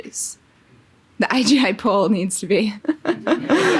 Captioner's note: laughing